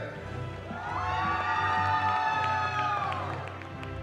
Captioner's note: cheering